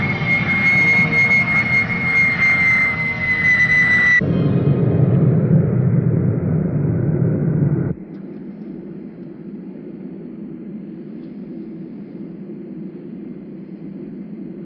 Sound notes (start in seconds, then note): 0.2 airplane engine whirring; 4.6 wind whirring